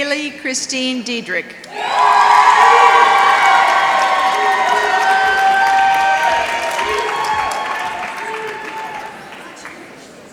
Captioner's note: applause